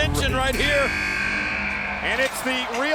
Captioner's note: buzzer buzzing